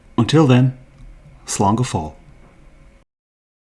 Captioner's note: in Irish